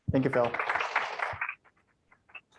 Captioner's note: applause